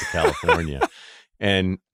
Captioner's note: laughs